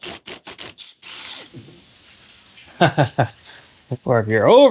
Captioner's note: chuckles